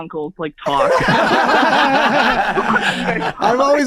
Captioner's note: everyone laughs